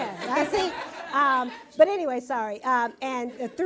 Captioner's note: laughter